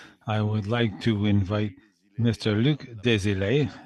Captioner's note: speaking French